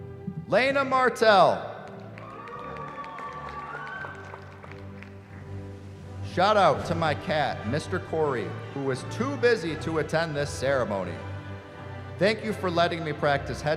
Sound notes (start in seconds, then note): 2.0 cheering